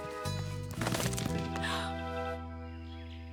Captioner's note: rustling